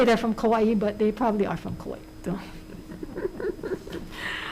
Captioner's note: laughs